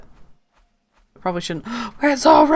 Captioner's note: gasp!